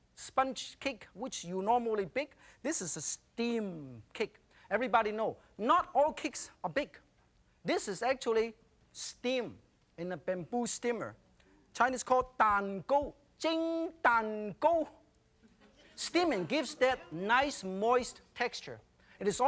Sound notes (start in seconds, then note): 14.3 foreign language